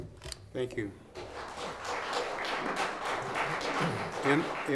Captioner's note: clapping